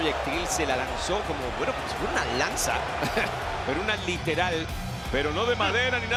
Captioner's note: laugh